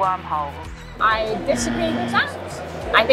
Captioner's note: voice over radio static; buzzer sound